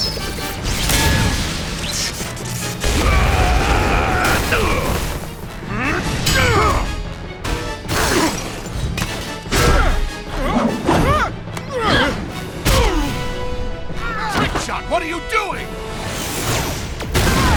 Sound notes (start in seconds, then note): 2.9 screaming; 12.5 wincing; 17.3 screaming